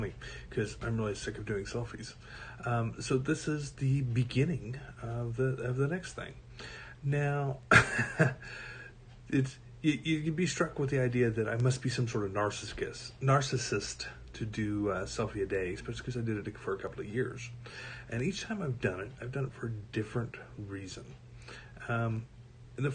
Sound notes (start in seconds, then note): 7.7 laughs